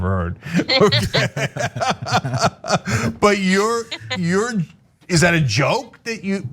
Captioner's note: laugh